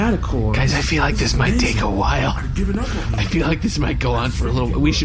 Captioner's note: whispering aside